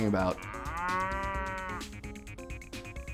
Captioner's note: mooing